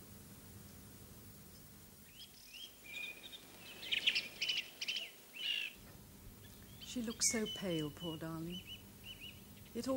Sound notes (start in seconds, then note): 2.0 birdsong